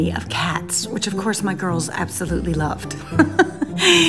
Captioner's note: laughs